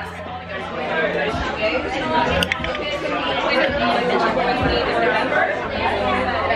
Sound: restaurant goers chattering; goofy slow drum music

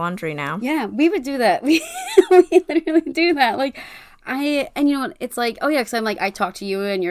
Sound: laughs

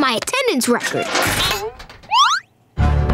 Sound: thudding

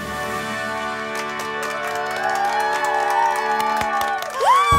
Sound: cheering and clapping

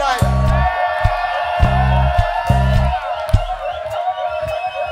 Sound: audience cheers

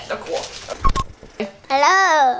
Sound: beep

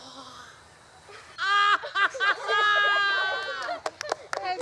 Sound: gasps and laughs wildly

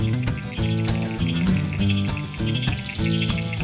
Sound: frogs croak

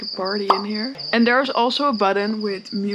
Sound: party with cicada singing

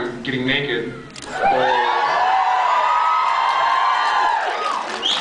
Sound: screams; whistles

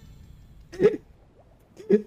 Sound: a single giggle

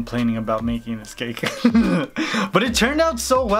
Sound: laughs

